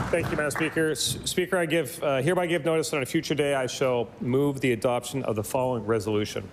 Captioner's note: applause